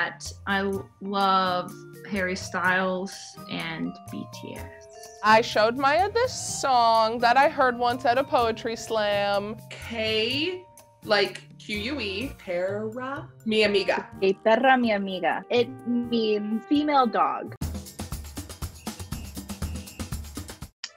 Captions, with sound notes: I love Harry Styles and BTS. - I showed Maya the song that I heard once at a poetry slam. (speaking Spanish) like q-u-e (speaking Spanish) - (speaking Spanish) It means female dog. (upbeat drum music)